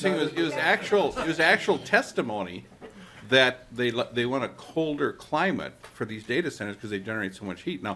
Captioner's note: laughter